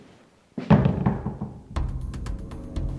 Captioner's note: door closes; suspenseful music